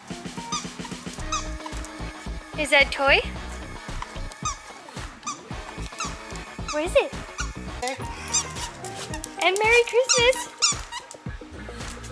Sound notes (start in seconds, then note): 0.2 toy Squeaking; 4.0 squeaking the toy